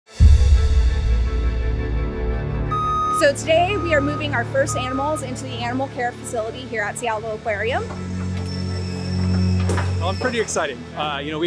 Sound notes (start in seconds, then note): 0.0 upbeat music; 2.6 truck alarm beeping